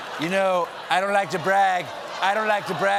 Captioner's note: laughter